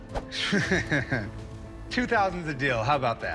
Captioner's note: laughs